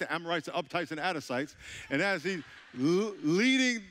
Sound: audience laughing

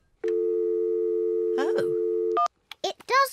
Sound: dialing tone

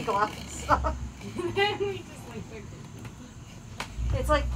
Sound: laughs

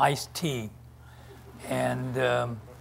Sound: audience chuckles

